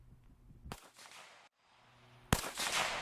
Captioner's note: gunfire